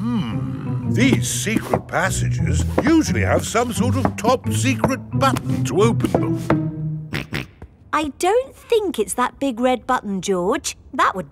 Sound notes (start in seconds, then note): 7.0 snorts